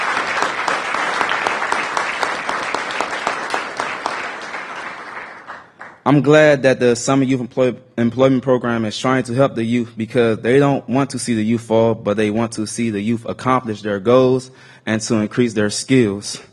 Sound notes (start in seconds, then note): 2.5 applause